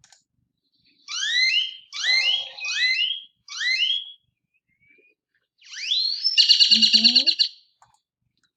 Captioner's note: loud bird noises